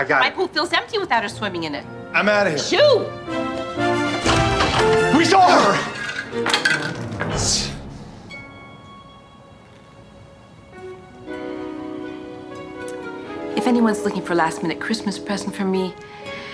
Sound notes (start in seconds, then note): 3.6 upbeat music; 6.6 cookies clattering; 8.9 gentle music